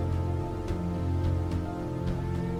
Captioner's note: none